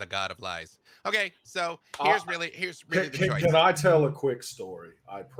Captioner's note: murmurs